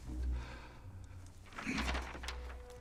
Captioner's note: daniel clears throat